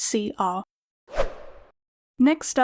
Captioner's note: whoosh Sound